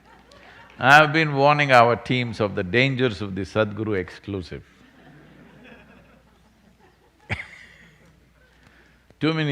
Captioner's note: laughs